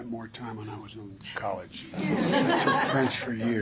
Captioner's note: laughter